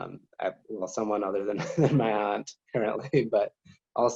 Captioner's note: chuckles